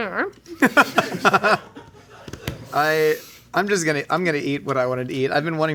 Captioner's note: chuckles